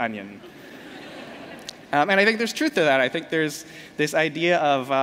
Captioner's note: laughter